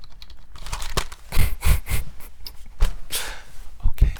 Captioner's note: laughing